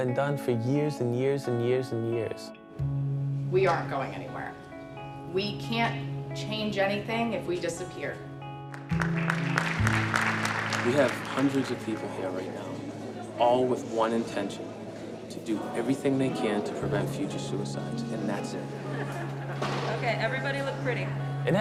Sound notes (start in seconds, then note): 8.7 applause